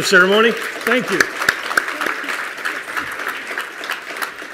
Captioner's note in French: Applaudissements